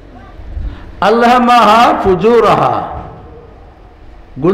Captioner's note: Arabic